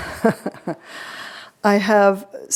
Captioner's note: audience laughing; chuckles